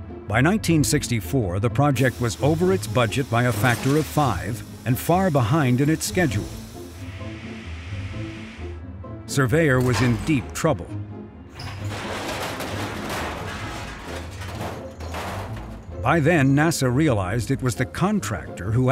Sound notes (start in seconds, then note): 11.5 metal clanging